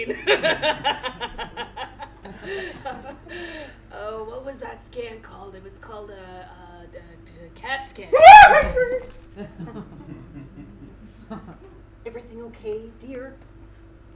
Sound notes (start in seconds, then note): 0.0 laughs a little too hard; 8.4 screams/ squeaks!